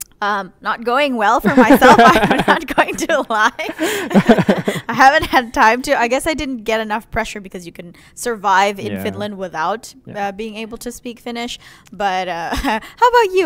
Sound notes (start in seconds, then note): 3.4 laughter